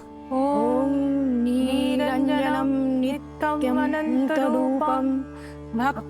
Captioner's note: chanting; chanting